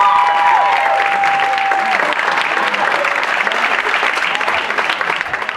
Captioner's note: applause